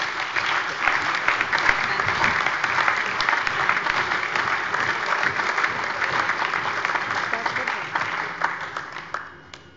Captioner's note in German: Allgemeiner Beifall